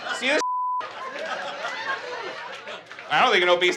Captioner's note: beep; audience laughs